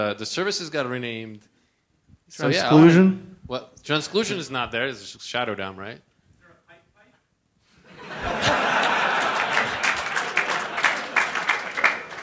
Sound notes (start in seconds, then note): 7.8 laughter; 8.4 applause